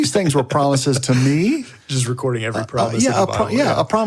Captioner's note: laughs